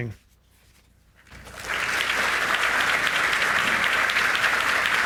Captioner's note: audience applauds